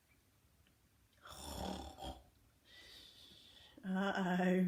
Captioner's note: snoring